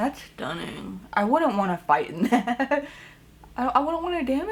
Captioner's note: chuckles